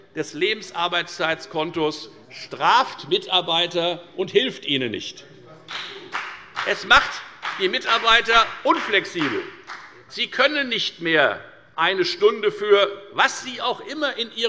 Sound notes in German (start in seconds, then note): 5.7 Beifall bei der FDP